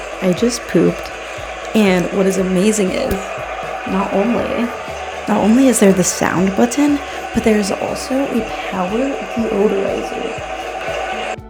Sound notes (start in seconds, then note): 8.3 waterfall sounds